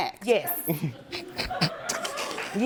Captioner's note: snickering